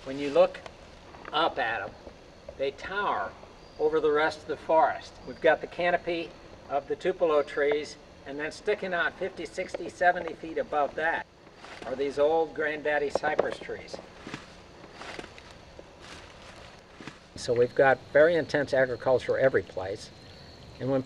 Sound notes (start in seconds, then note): 14.6 leaves crunching